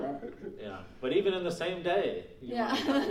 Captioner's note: laughing